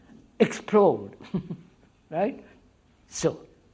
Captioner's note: laughs